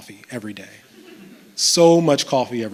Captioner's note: chuckles